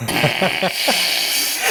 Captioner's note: laughter